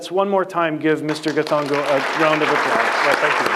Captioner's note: applause